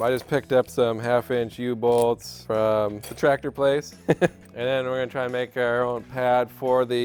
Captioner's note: laughs